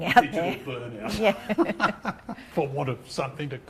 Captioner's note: laughing